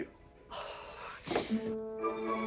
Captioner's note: seething